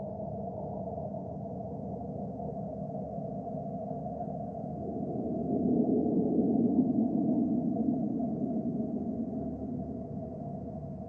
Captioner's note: ethereal wind sounds